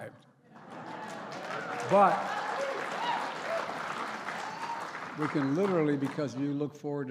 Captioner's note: applause